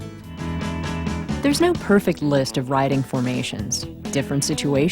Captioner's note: voiceover